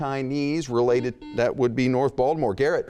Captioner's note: buzzing